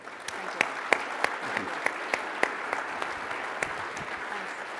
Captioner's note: audience applauding